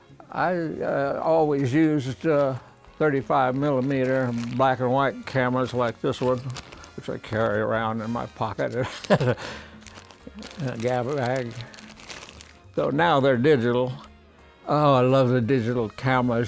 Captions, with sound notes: I always used a 35 millimeter black and white cameras like this one, which I carry around in my pocket. (laughs) So, now, they're digital. Oh, I love a digital cameras.